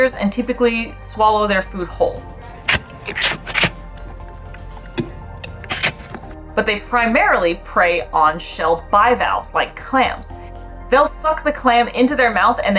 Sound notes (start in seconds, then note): 2.3 sucking sound of walrus eating fish; 2.3 background music; 10.4 background music